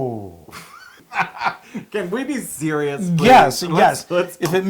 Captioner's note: laugh